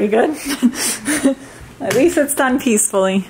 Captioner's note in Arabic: تضحك أمي